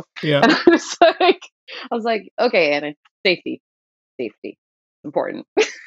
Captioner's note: laughter; laughter